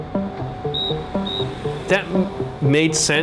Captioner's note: whistle tweets